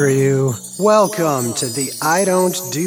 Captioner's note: chimes